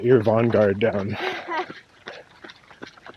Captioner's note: laughs